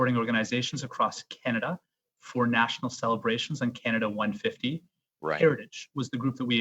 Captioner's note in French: voix de l'interprète